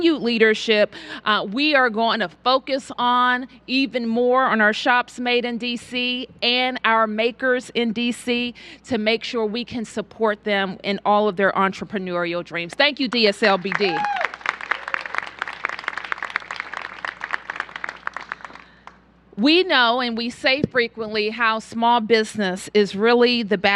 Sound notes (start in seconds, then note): 16.9 applause